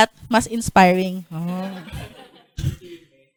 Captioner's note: laughter